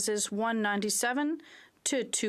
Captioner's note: speaking French